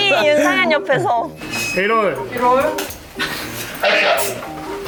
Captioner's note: trying to hold in laughter